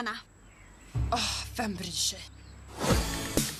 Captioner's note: sighs; dance music plays